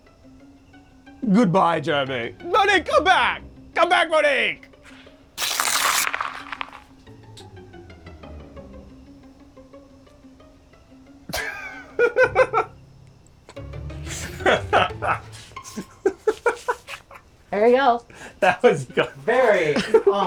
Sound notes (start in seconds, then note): 6.3 dubious music; 11.3 laughing